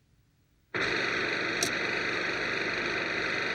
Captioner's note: whirring